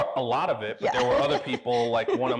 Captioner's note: laughs